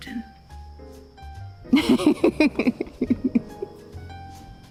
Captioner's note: laughing